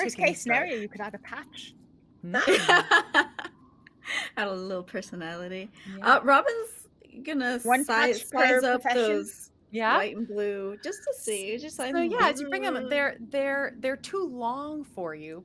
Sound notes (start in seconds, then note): 2.3 laughing